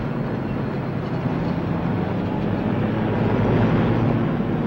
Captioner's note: engine whirring